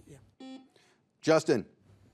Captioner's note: buzzer buzzes